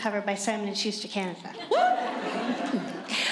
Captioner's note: laughter